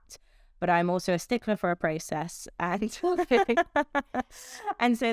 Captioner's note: laughs